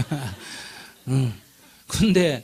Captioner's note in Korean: 질문자와 청중 웃음